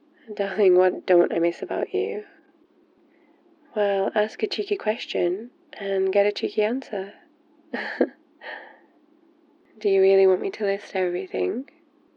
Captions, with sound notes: darling what don't I miss about you? well, ask a cheeky question and get a cheeky answer *laughs* do you really want me to list everything?